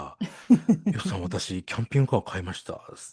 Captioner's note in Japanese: 笑い